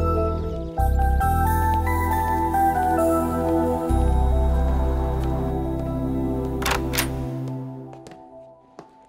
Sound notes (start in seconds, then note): 0.0 birds chirping; 6.5 door opens